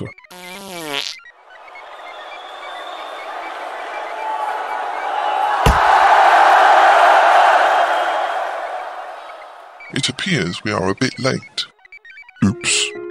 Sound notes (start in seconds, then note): 0.3 passing wind; 1.7 sound of crowd cheering as axe hits block